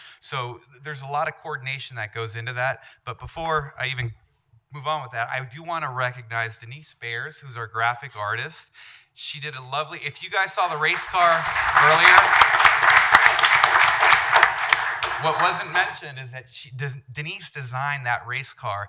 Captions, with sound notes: So there's a lot of coordination that goes into that, but before I even move on with that, I do want to recognize Denise Bayers, who's our Graphic Artist. She did a lovely...if you guys saw the Race Car earlier (applause) what wasn't mentioned is that she, Denise designed that Race Car